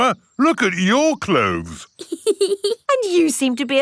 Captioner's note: laughs